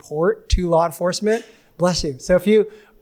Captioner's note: attendee sneezes